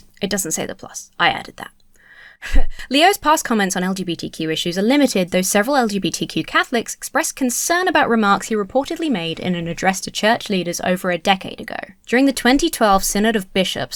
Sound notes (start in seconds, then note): 2.4 chuckles